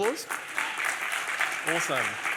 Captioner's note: applause